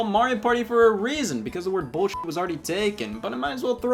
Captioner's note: beep